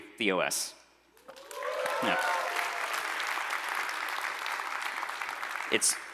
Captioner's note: applause